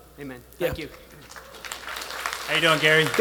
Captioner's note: attendees applauding